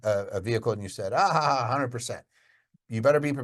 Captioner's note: laughs